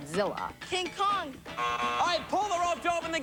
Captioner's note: buzzer